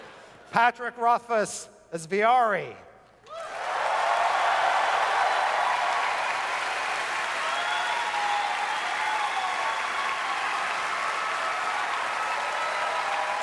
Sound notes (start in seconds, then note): 3.5 audience cheers